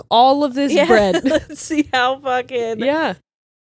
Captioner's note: laughs